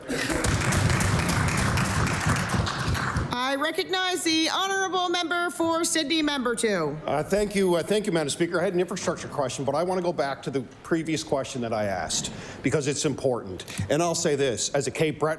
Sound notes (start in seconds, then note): 3.9 applause